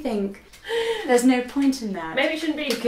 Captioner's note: laughs